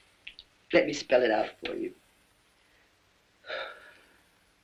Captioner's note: sighs